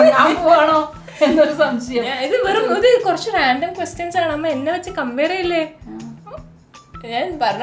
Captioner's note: suspicious laughter